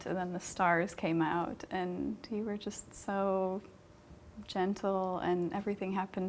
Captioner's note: none